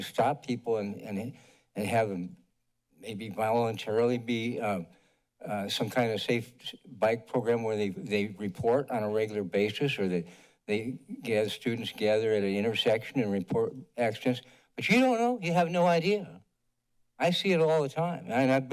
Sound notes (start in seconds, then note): none